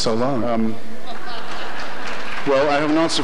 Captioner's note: audience laughter